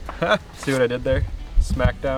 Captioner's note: chuckles